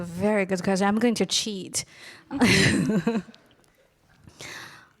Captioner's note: laughs